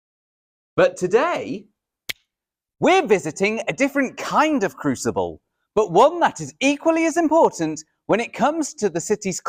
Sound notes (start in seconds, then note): 2.1 snap of fingers